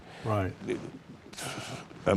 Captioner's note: pat